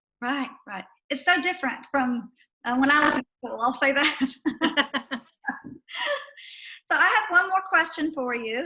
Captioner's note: laughter